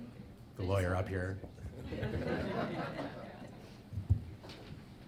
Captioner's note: audience laughing